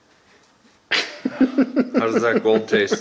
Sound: laughing

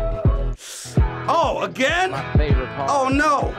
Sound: sucks in breath

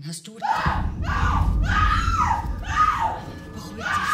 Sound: shrieking

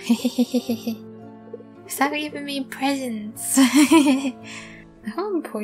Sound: laughter; laughter

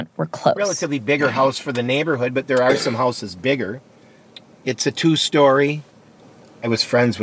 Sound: A cough

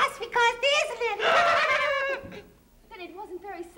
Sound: laughing

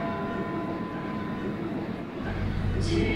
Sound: bells ringing

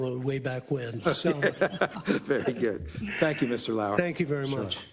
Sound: laugh

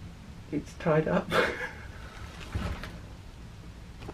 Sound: chuckles

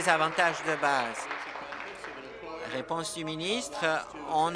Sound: applause

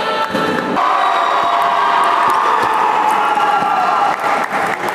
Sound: applause

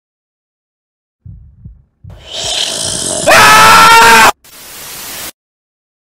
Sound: sound of scream

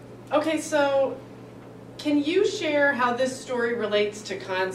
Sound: none

